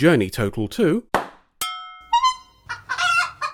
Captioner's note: pop; honk; cluck